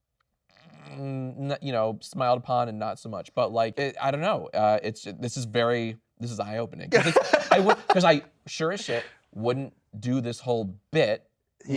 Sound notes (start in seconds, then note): 6.9 laughing